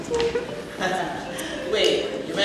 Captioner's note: sylvain chuckles